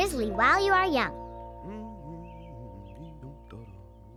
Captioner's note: humming